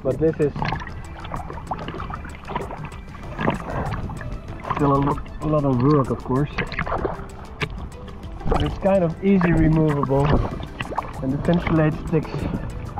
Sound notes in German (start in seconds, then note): 1.4 Wasser plätschert leise